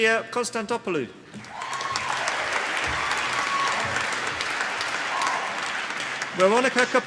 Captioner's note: applause